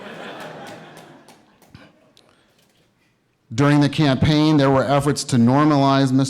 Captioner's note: laughter